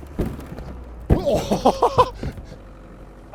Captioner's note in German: erschrockenes Lachen